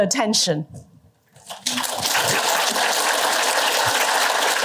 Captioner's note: applause